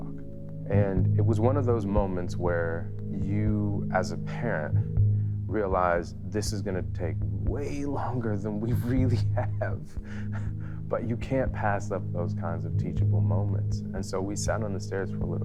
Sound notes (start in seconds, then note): 12.0 laughing